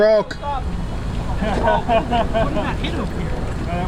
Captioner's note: laughing in background